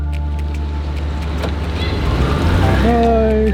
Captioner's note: engine whirring